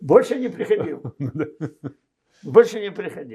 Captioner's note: laughing